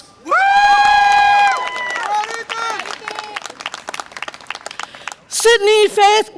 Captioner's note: audience applause and cheer